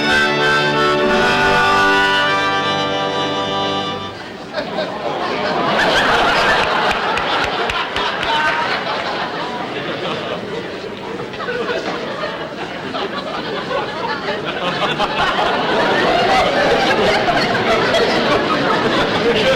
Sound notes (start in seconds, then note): 4.5 audience Chuckling